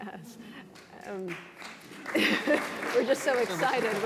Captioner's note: applause